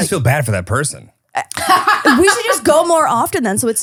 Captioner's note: laughing